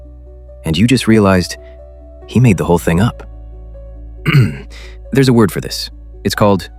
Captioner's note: clears throat